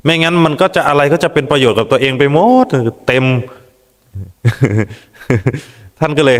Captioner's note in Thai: เสียงหัวเราะ